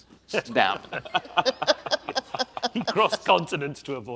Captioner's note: audience and panel laughs